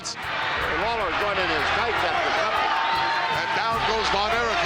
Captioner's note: crowd cheering